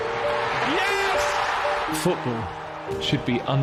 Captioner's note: crowd cheers; piano plays